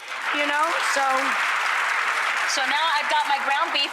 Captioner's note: audience applause